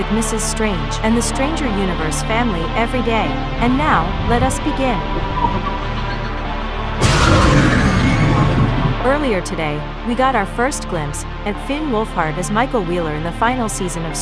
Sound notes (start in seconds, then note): 4.9 demogorgon cheers